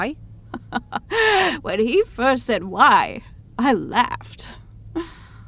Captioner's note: chuckling